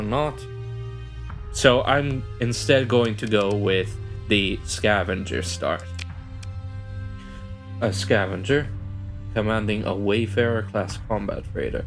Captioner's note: coffee sip